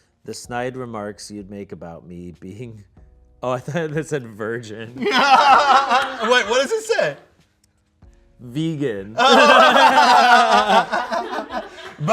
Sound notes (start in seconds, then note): 5.0 everyone laughs; 9.2 everyone laughs